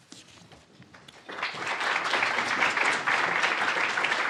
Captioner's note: applause